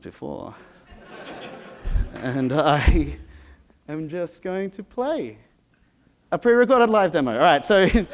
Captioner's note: laughter